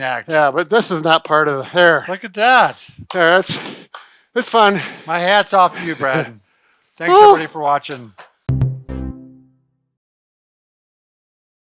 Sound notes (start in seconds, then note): 3.9 claps; 8.5 dramatic music